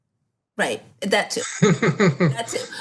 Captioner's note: laughs